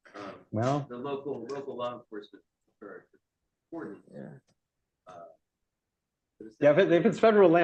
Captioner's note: off mic